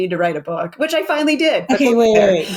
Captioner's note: laughs